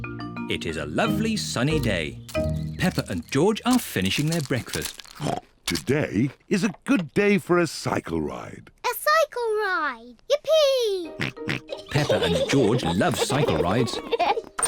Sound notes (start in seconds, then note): 5.2 snorts; 11.5 both giggle